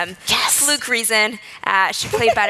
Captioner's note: laughs